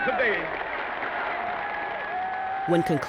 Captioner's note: crowd cheers